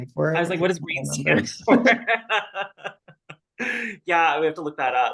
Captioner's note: laughs